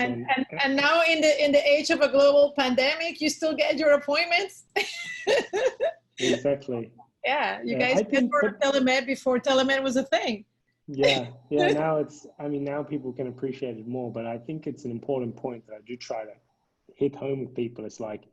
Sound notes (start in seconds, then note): 6.2 laughs